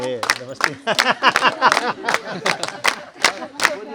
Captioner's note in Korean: 웃음